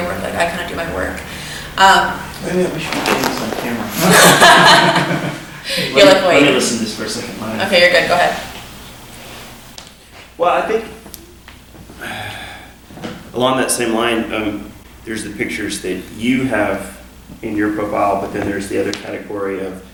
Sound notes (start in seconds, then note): 3.9 everyone laughing; 11.9 sighs